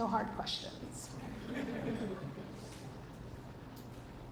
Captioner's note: audience laughs